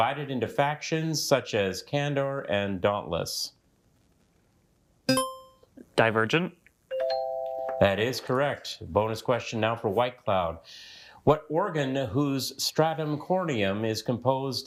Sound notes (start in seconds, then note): 5.1 buzzer beeps; 7.0 bell dings